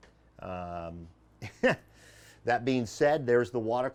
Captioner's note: laughs